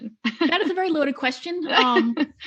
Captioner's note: both laughing